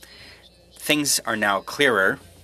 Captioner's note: speaking French